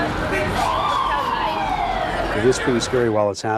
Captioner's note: sirens wailing